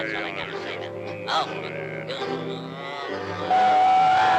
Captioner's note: Sinbad grumbling; pipe toots